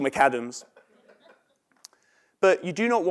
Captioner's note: laugh